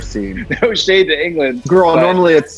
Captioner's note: laughs